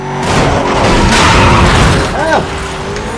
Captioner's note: crash